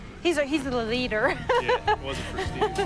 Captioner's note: laughs